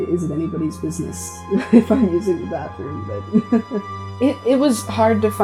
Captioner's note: laughs